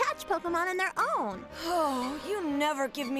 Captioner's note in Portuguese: suspiro